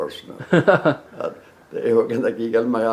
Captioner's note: hahaha